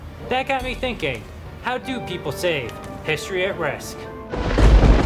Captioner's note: sounds of thunder